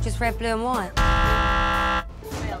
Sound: buzzer

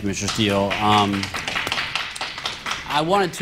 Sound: applause

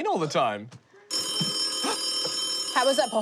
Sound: gasps; phone jangles

